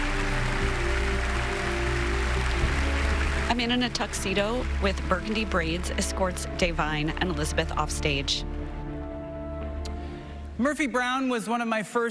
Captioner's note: applause